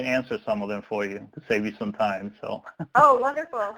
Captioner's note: laughs